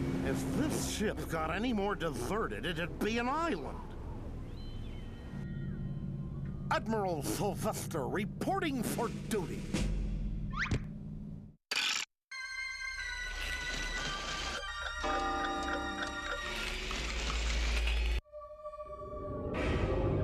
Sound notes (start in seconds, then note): 14.8 clock chiming